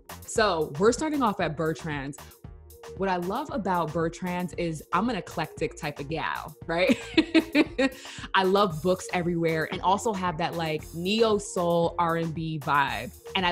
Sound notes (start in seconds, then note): 0.0 upbeat music; 7.0 laughs